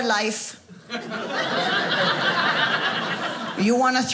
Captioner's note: audience laughing